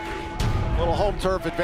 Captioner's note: bell ringing